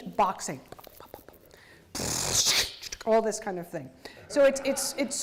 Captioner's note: beatboxing